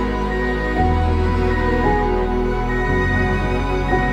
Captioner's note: electronic beeping